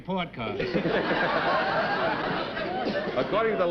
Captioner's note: chuckling